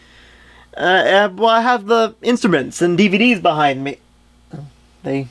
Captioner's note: stammers